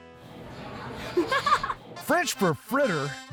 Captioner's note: giggling